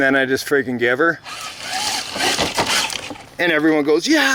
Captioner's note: engine roaring